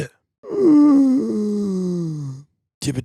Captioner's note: groan